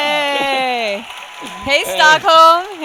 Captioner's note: audience cheering